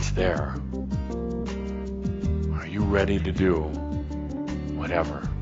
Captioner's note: none